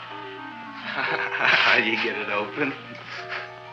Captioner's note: chuckles